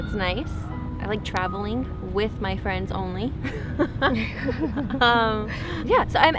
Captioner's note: laughing